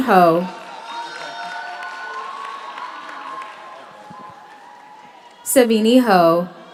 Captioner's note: audience cheers; audience applauds